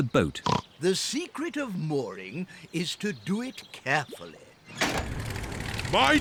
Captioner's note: oinks